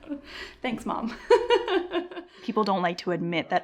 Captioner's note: laughs